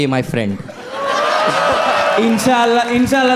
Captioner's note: crowd applauding